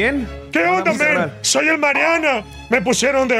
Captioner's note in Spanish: imita a elmariana